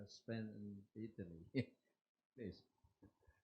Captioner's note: laughs